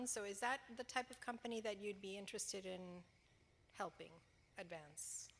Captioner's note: none